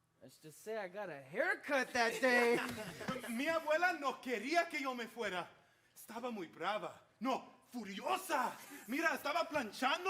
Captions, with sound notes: Let's just say I got a haircut that day. [performers laughing] [speaking Spanish]